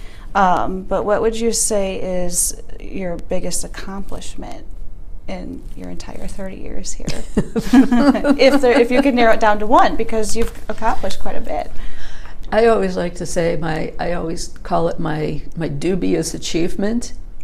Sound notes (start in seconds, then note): 7.0 laughing